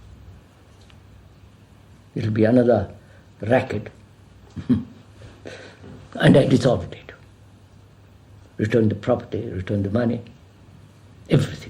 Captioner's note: laughs